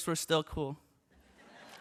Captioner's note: laughter